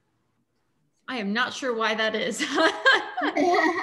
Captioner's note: laughs